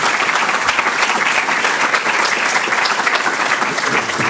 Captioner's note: applause